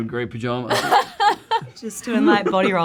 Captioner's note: host laughing